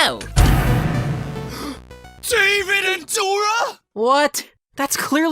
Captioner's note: gasp